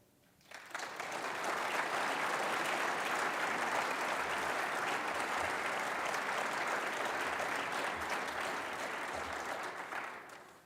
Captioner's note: applause